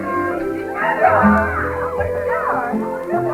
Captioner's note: chatter